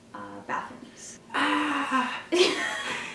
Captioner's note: yells softly; laughing